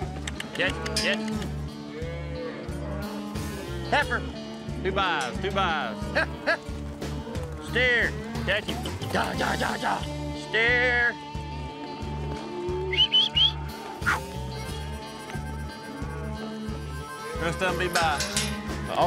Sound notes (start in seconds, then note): 0.4 mooing; 5.9 calling; 9.7 calling; 12.9 whistles